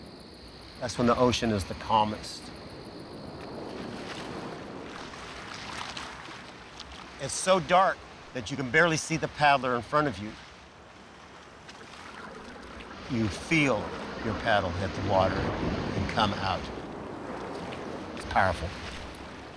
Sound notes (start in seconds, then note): 3.7 water lapping